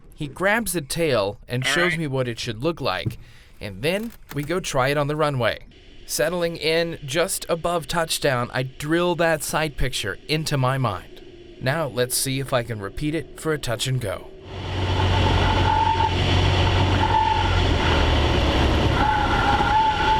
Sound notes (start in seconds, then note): 14.5 engine revving